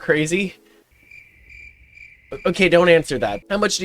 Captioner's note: crickets